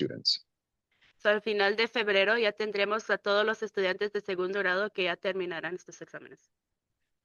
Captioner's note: speaking in Spanish